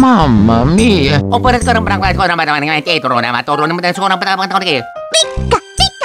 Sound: italian gibberish

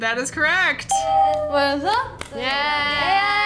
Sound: ding

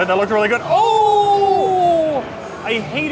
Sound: both groan

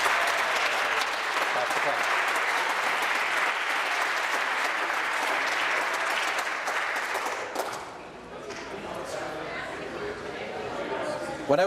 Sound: applause

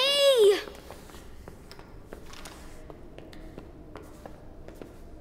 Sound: kids footsteps

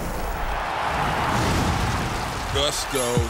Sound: crowd cheers

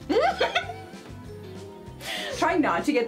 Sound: laughs

